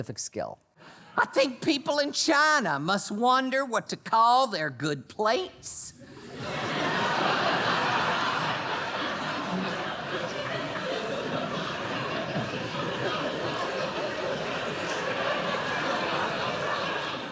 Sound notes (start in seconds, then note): 8.0 laughter; 14.6 laughter continues